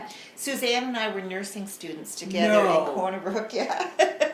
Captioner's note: laughs